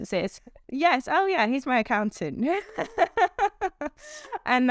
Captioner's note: laughs